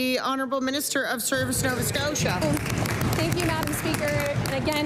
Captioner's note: applause